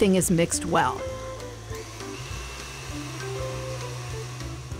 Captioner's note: mixer whirring